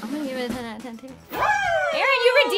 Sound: group cheering

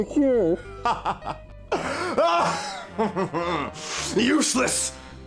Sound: laughing

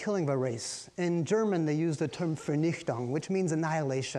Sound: speaking in foreign language

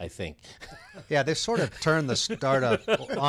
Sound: laughs

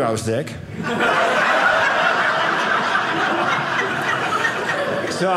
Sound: audience laughing

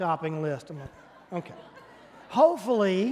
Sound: congregation laughing

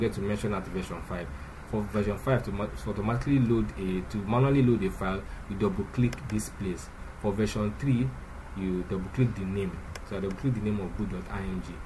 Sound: click

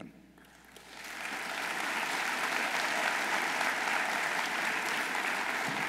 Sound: audience applauding

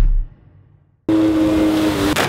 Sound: jetski Engine; water Splash

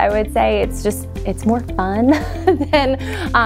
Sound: laughing

